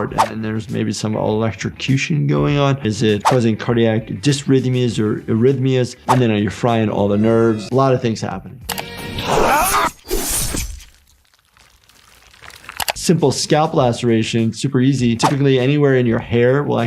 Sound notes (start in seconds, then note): 8.7 click; 9.4 grunting, cutting and blood gushing